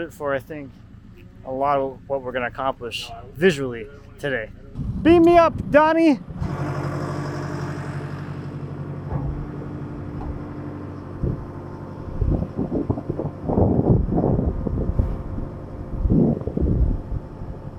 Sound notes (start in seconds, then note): 6.4 motor humming